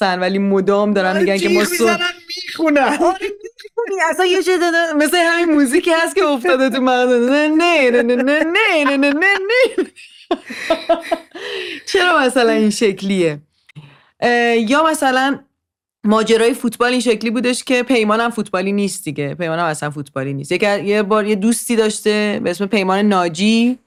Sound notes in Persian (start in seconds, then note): 1.9 خنده; 8.0 خنده